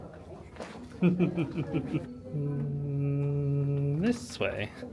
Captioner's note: laughing